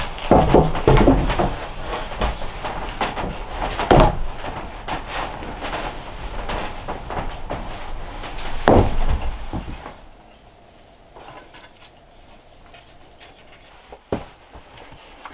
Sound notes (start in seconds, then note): 8.7 feet clomping; 11.6 wire rattling